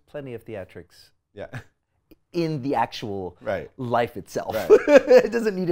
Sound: laughs

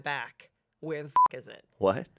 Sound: beep

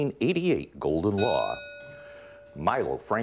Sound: ding

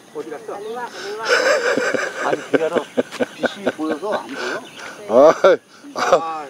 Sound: laughs

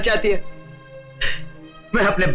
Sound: sighs

